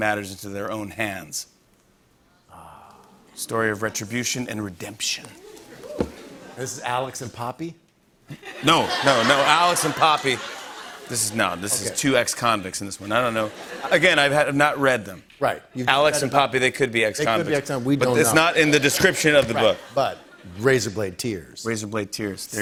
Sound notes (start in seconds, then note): 8.3 laughter